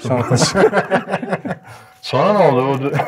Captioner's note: laughter